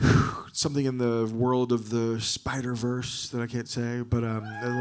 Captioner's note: sighs